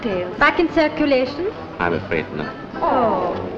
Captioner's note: all sigh